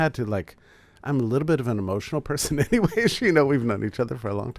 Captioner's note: laughs